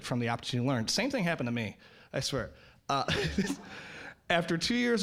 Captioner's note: all laughing